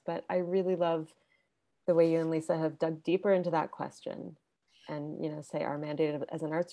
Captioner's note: none